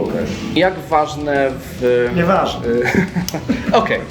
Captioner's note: laughter